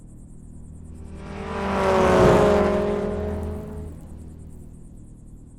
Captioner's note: car engine rumbling